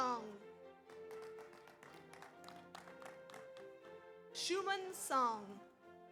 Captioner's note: audience applauds